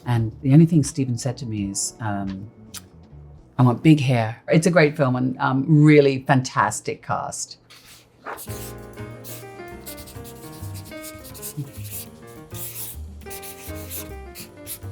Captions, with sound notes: and the only thing Steven said to me is, "I want big hair." It's a great film, and really fantastic cast. [upbeat jazzy music] [pen scratching]